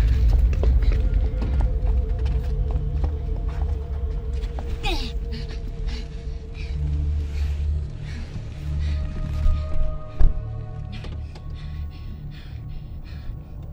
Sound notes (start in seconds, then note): 0.2 eerie music; 4.8 Catwoman grunts; 9.2 eerie music continues